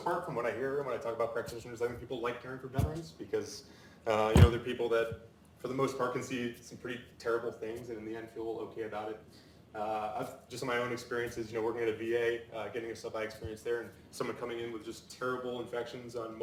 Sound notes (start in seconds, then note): none